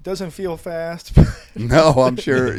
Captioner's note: all chuckling